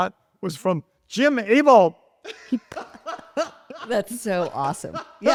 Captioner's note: laughs